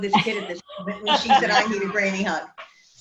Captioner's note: woman laughs